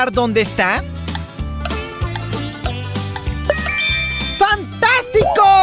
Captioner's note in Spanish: Sonido de reloj